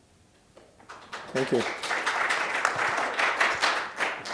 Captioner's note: applause